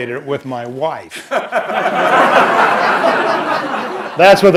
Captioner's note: laughter